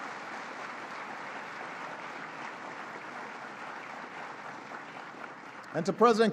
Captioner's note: applause